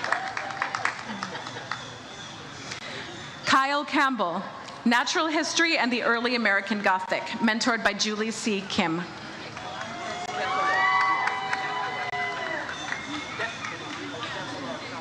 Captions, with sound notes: Kyle Campbell, "Natural History and the Early American Gothic," mentored by Julie C. Kim. (audience cheers)